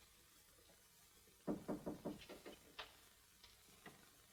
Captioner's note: knock on door